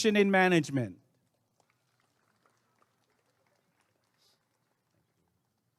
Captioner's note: applause and cheering